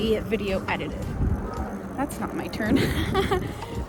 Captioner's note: chuckles